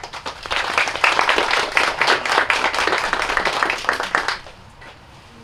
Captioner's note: applause